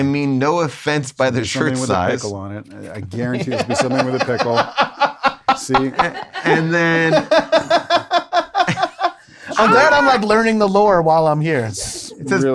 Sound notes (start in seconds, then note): 3.1 laughing